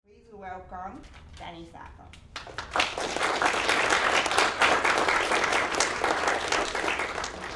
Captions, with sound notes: - Please welcome Danny Saathoff. (audience applauding)